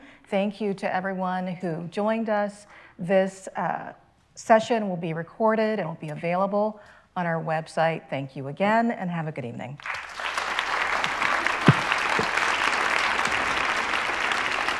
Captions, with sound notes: Thank you to everyone who joined us. This session will be recorded and will be available on our website. Thank you again, and have a good evening. [people clapping]